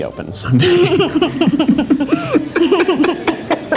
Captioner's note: both laugh